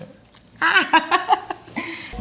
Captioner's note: laughs